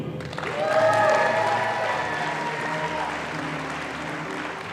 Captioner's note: audience applauding